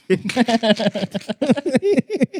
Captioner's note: laughing